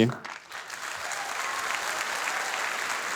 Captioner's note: audience applause